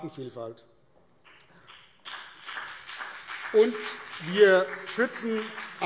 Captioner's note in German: Beifall BÜNDNIS 90/DIE GRÜNEN und vereinzelt CDU